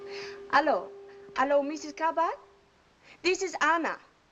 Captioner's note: in French accent